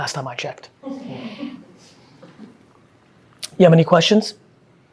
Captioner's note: group chuckling